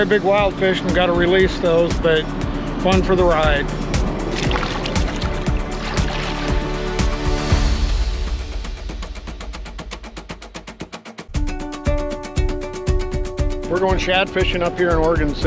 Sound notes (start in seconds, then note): 4.1 fish splashing